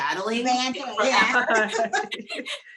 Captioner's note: laughing